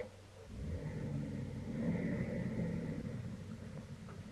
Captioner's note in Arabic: هدير المحرك